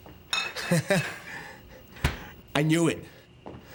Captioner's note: laughs